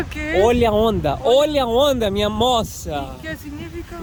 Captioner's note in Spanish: En portugués